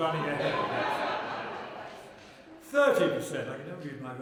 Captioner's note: laughter